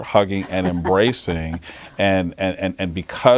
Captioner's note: laughs